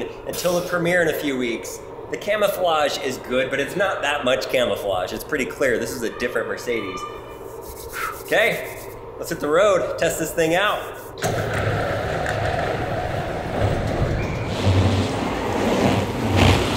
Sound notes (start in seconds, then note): 11.2 garage door whirs open; 14.6 car engine revving